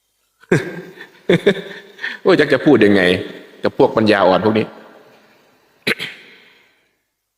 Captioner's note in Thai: เสียงหัวเราะ